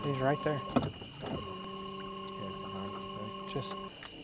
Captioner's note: locusts buzzing